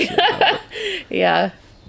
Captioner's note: laughing